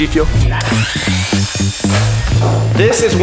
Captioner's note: power saw squeals